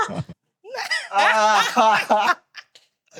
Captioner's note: laughing